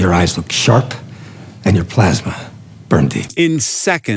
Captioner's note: movie dialogue plays